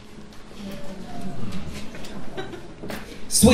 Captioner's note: audience mumbles